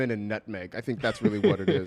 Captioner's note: laughs